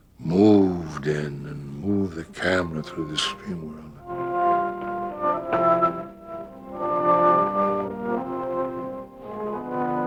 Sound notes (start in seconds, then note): 3.4 speaking softly; 4.0 dramatic music